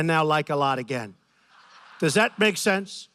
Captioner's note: laughter